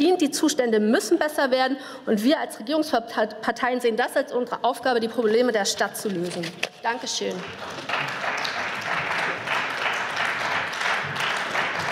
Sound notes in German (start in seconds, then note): 7.1 Beifall